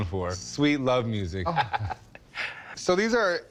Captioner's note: laughs